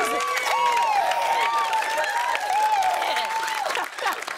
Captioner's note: cheers and applause